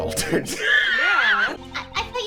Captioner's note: wheezing